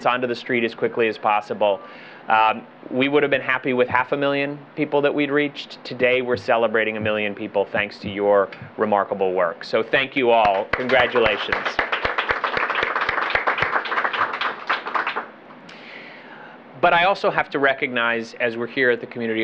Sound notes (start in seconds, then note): 14.3 applause